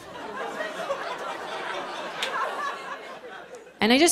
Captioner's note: laughter